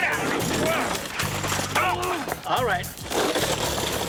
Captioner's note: grunting